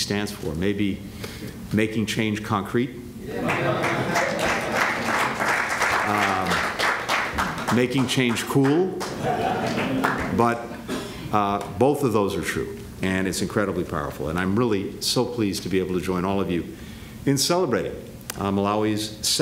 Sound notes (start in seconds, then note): 3.4 applause; 9.0 laughter